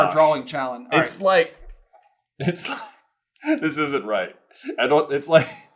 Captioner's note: laughs